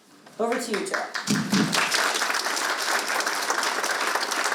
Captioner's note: all clapping